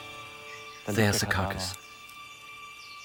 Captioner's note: in German